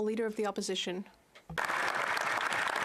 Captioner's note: some Applause